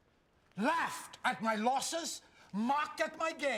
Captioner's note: none